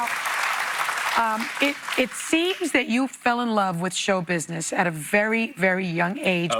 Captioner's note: applause